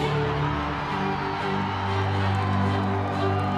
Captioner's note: cheering; upbeat music